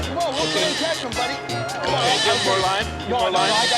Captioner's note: laughter